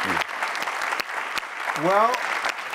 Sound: audience applauding

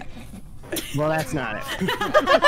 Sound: laughter

